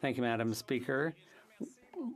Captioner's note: speaking French